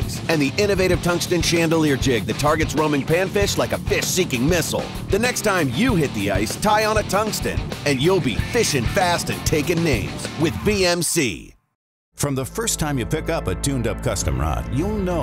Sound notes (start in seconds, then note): 12.4 voiceover